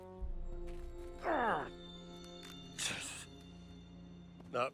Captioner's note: grunting